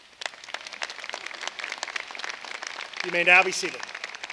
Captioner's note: applause